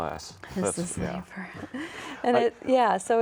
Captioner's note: chuckling